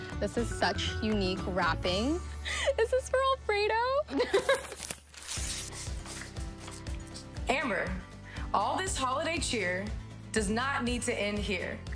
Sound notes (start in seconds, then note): 3.9 laughs